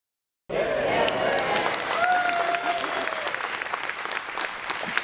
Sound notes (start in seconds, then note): 1.0 applause